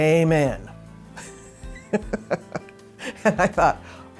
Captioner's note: laughing